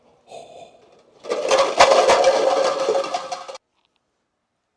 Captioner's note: clattering